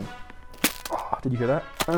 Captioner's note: popping